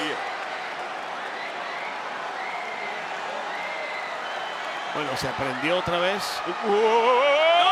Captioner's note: applause